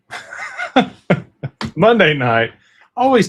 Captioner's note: laughter